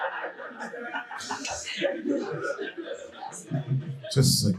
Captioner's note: audience laughing